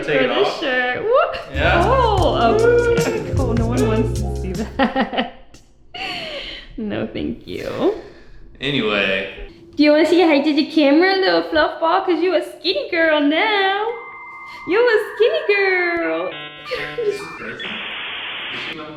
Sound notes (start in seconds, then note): 1.5 funky music; 14.2 machine whirring